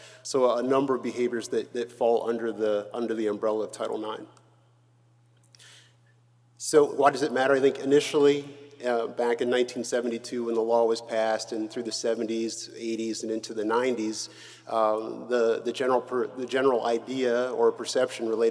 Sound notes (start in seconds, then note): none